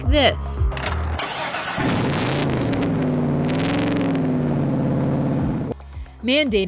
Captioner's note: engine roaring; ignition starts